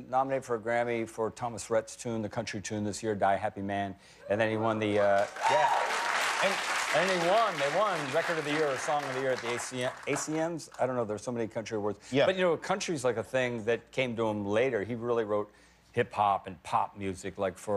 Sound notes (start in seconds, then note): 10.7 cheers and applause